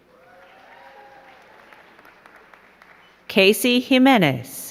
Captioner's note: crowd cheering and clapping